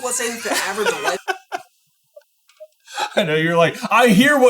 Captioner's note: laughing